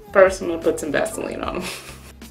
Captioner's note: laughs